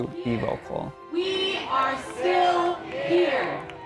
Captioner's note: crowd